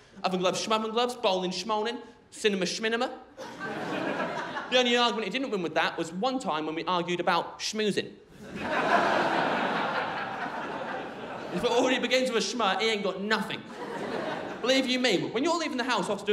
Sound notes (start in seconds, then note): 3.4 crowd laughing; 8.4 crowd laughing